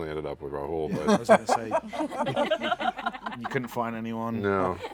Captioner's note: laughter